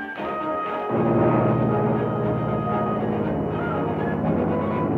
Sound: engines rumbling

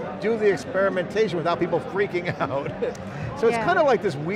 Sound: laughs

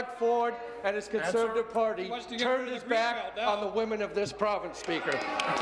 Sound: applause

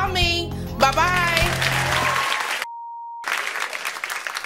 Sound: applauding

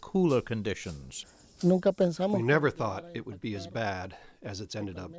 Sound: through translator

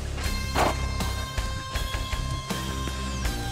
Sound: gunshot; dramatic rock music

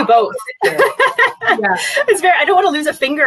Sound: laughing

